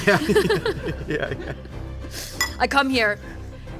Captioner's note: chuckling